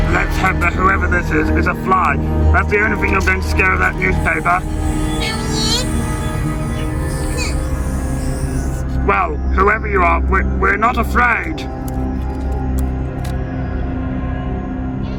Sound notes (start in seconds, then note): 4.0 sinister spooky music; 5.8 fly buzzing; 6.5 sinister spooky music; 7.7 fly buzzing; 7.7 sinister spooky music; 11.0 sinister spooky music